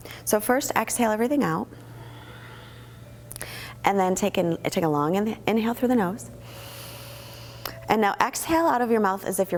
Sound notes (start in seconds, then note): 6.4 inhaling